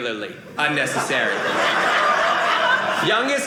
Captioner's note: audience laughing